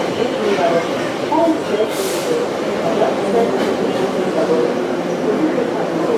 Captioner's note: braking - arrival at the station